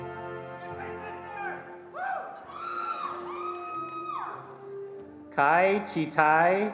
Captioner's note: attendees cheering and applauding